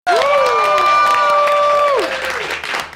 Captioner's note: everyone cheering and clapping